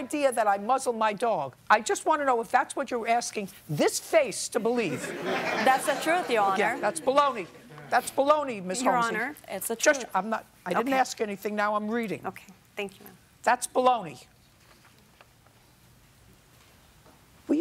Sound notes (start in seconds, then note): 4.9 laughter